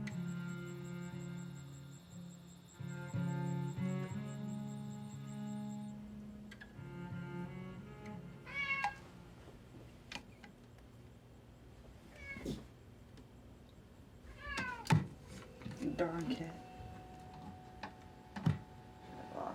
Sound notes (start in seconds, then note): 0.0 crickets chirping; 8.4 cat mewing; 16.9 machine whirring softly